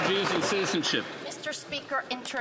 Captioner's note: some Applause